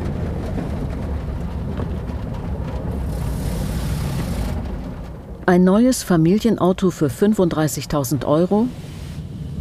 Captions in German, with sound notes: (Rumpeln) Ein neues Familienauto für 35.000 Euro?